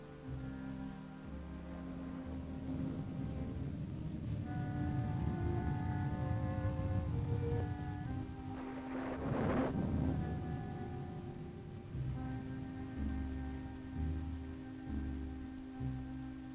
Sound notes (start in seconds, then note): 2.6 pensive music; 2.6 thunder rumbling